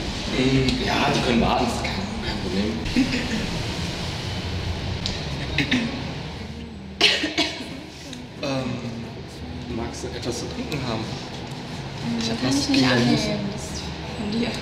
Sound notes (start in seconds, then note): 6.9 cough